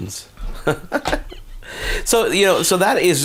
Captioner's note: laughs